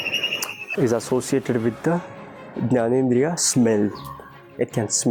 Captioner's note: foreign language